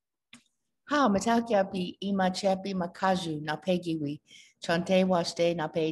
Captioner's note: speaking in foreign language